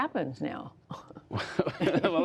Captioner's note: laughter